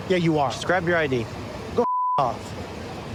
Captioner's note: beep